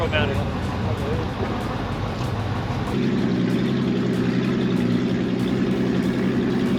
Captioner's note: engine revving